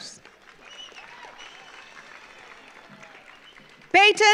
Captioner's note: audience applauds